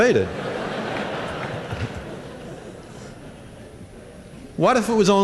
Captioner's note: laughter